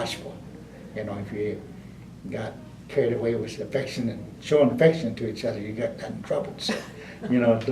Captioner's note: laughter